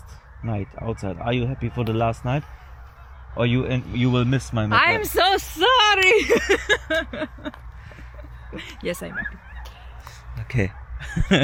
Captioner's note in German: gelächter